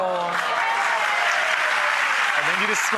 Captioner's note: applause